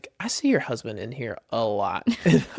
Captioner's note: laughs